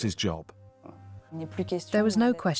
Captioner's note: non-english speech